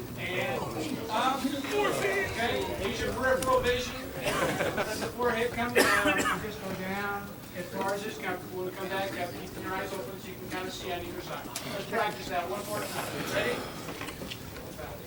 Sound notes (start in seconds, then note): 2.1 choir members groaning; 4.0 choir members laugh